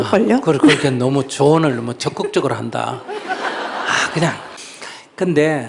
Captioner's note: audience Laughter